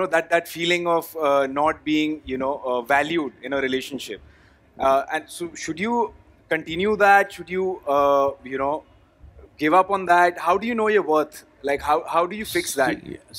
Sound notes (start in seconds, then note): none